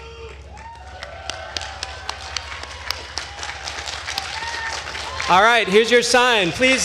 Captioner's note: attendees cheering and applauding